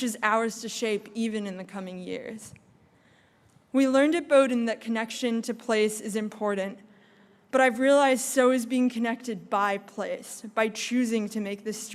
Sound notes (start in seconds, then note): none